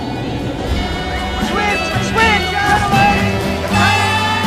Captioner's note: man shouting